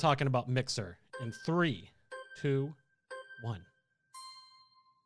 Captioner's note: melodic timer